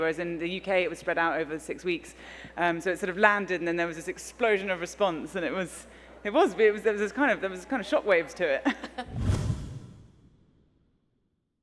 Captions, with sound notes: whereas in the UK it was spread out over six weeks. So it sort of landed and there was this explosion of response and there was kind of shock waves to it. (chuckles)